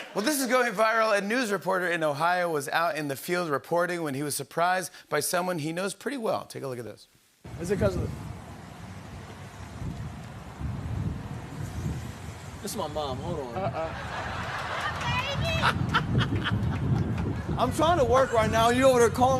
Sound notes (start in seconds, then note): 13.5 laughter; 16.2 laughing